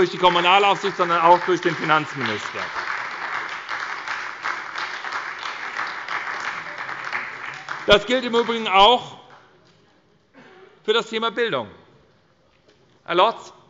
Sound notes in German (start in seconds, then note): 2.8 Beifall bei der SPD und bei Abgeordneten der LINKEN